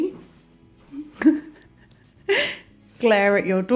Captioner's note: laughing